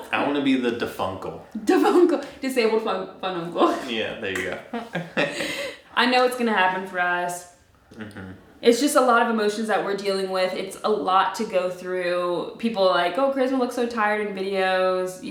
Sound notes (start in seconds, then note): 4.3 laughing